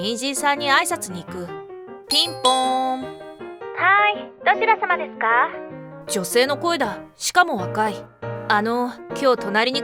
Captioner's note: ding-dong!